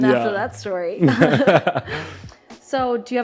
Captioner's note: both laugh